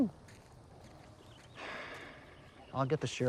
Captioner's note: Eddie sighs